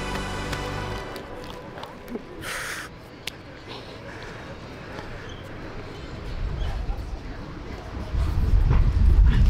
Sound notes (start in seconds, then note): 1.7 weeping